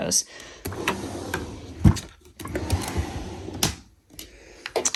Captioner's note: drawer sliding